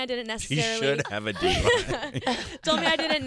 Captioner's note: laughing